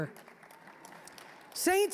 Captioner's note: scattered applause